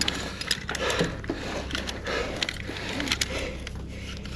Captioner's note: equipment clattering